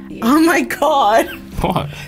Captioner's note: laughing